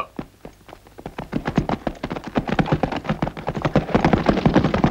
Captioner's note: horses clattering